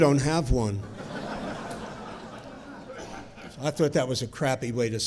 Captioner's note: audience chuckling